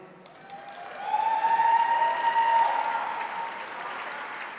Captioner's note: audience cheering